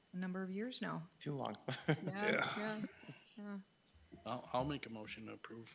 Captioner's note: laughing